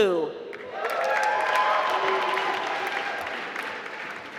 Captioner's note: applause